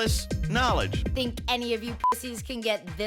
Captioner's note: beep